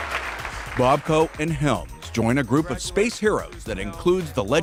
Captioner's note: applause